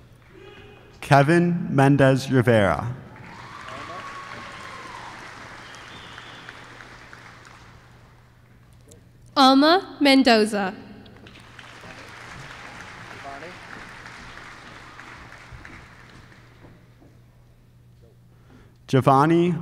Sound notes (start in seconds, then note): 3.1 applause; 11.2 applause